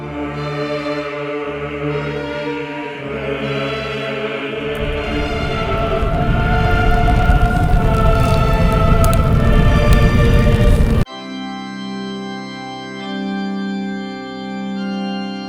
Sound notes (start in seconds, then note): 0.2 dramatic choir music; 6.4 flames roaring; 11.1 melancholic organ music